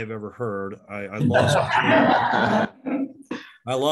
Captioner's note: chuckling